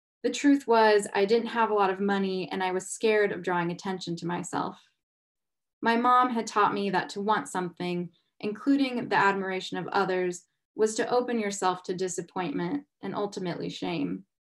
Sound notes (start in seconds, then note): none